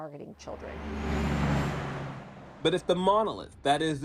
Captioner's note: traffic passing